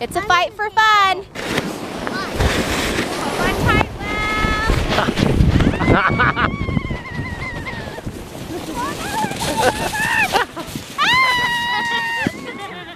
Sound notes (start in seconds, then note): 5.2 laughing; 5.2 yelling